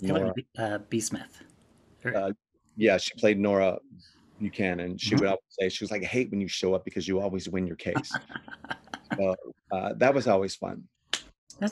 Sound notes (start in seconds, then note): 8.2 laughs